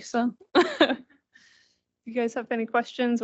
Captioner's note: laughing